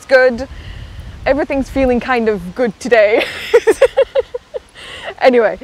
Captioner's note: laughs